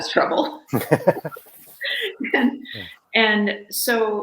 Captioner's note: laugh